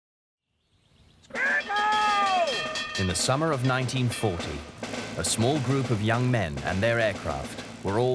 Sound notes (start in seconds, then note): 1.3 bell ringing; 1.8 man shouting